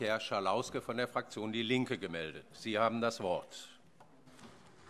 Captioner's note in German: none